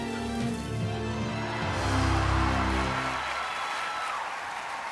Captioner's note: cheering